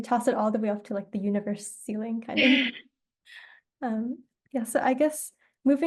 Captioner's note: laughs